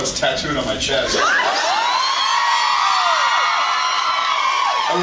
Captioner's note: screams